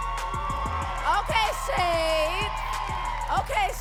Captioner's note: audience cheering and clapping